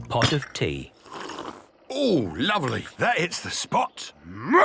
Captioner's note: sipping